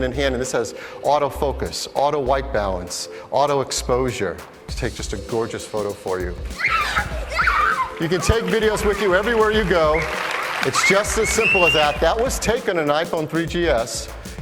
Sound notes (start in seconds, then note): 6.5 kids laughing; 10.5 crowd applauses